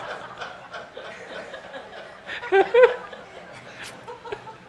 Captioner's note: laughter